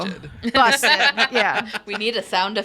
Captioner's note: laughs